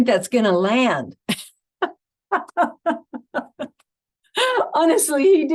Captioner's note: laughing